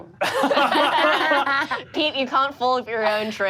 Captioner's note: all laugh